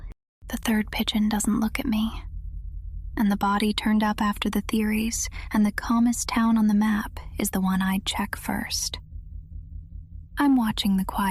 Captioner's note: whispers